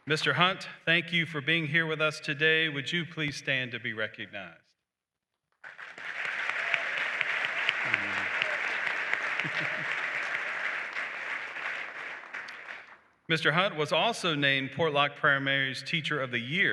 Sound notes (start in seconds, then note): 5.6 applause